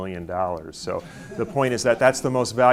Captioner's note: audience chuckles